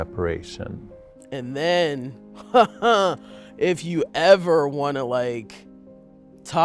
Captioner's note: laughs